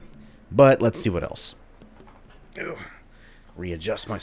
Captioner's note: readjusting noises